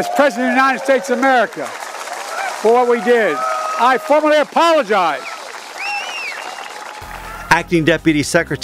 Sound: applause

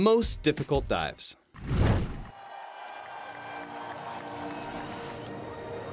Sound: crowd cheering; suspenseful music playing

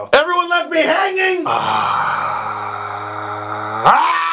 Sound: long exhale

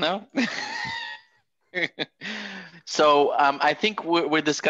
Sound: laughter

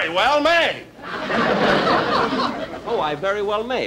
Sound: audience Chuckling

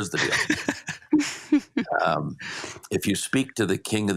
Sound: chuckle

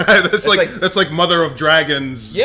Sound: laugh

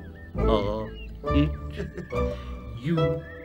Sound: laughs

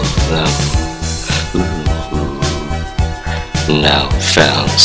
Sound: seductive moans

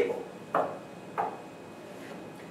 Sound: tap

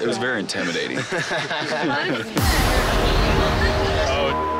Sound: laughing; beep

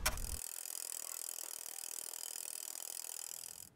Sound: rapid clicking

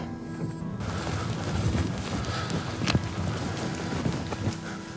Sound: footsteps crunching

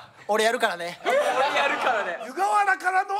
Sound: laughs

